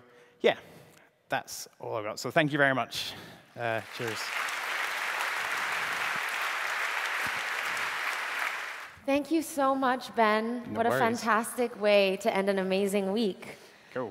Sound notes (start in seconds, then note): 7.1 applause